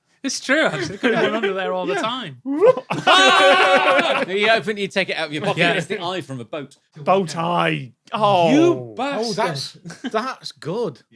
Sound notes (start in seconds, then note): 2.4 laugh